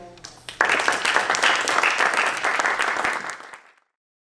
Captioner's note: applause